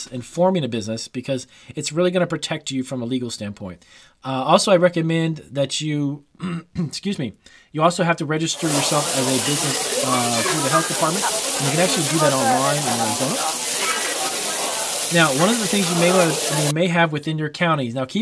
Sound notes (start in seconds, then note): 6.3 clears throat; 13.8 food sizzling and crowds chattering